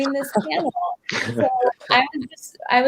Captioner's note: both laugh